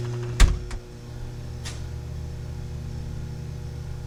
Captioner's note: object thuds